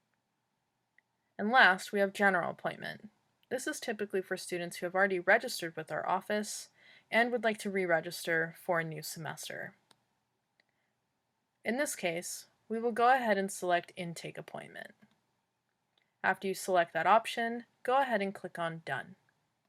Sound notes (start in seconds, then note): 15.0 clicking sound